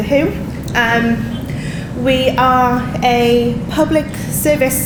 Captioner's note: audience laughing